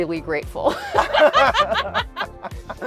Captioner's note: laughs